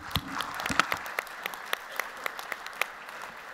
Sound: applause

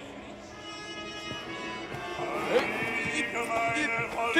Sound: none

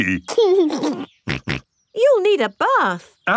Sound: giggles and snorts

